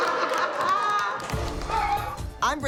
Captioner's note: laughter